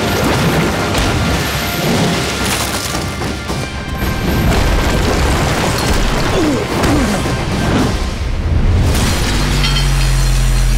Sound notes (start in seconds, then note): 6.3 grunting